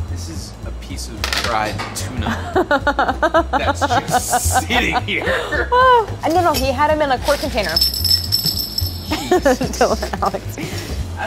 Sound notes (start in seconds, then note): 2.3 laughs; 7.9 metal clanging; 9.0 laughing